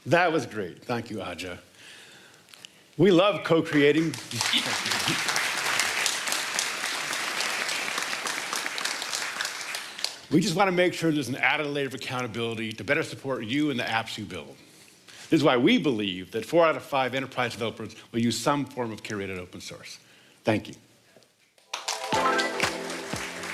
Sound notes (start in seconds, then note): 7.6 applause